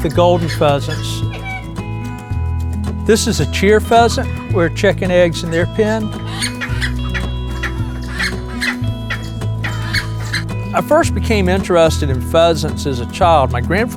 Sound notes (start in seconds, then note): 5.8 clucking